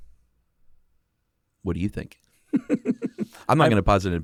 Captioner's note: laughs